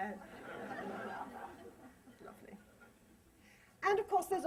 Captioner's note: laughter